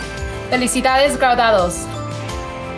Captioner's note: speaks in foreign language